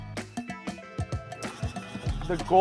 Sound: motor running

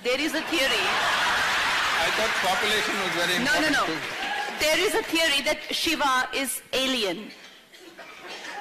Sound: laughter

